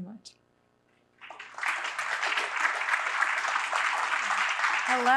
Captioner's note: applause